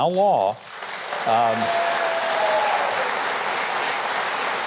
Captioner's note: audience applauds